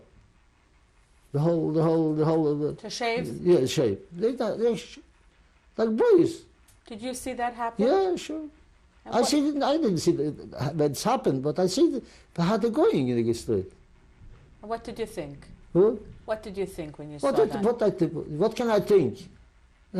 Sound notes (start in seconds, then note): 13.4 non-english